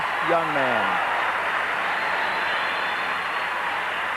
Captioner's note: crowd cheering